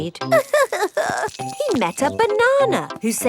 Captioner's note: crying